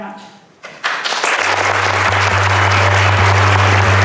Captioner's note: audience applauding; gentle music